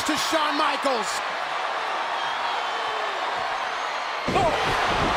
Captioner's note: crowd cheering